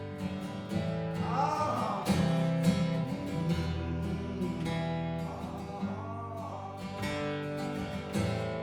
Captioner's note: humming